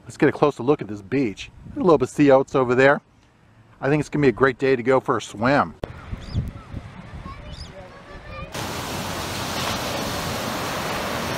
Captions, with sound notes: Let's get a closer look at this beach. A little bit of sea oats over there. I think it's gonna be a great day to go for a swim. (kids chattering) (water splashing)